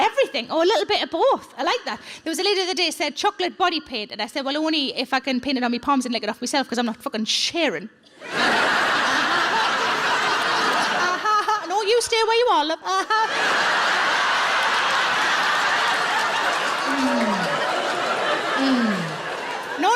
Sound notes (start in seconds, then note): 8.2 audience laughs; 13.0 audience laughs and applauds